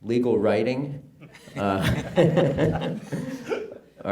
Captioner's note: chuckling